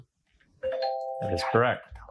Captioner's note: bell dings